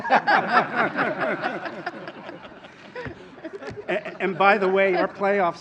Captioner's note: laughter